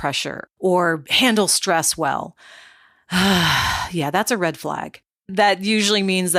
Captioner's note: sighs